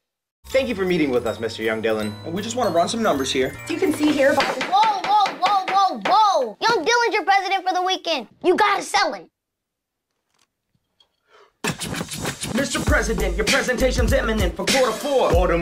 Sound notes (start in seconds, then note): 9.5 silence; 11.6 rap music